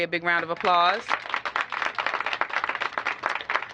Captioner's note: applause